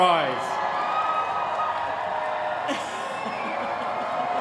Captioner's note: cheering